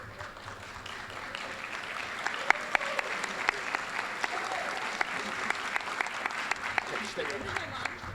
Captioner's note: applause